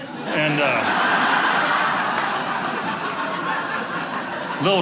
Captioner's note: audience laughing